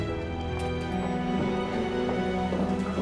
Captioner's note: elevator bell dings